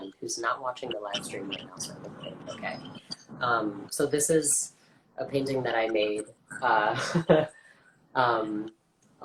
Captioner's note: laughs